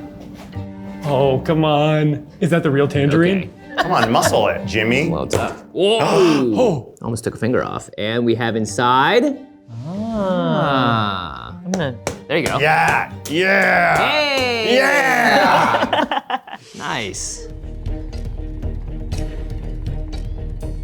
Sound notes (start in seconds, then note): 15.6 all laughing; 18.1 tense music